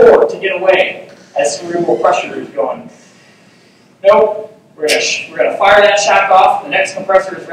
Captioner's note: whooshing noise